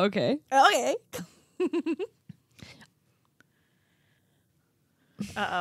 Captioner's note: giggling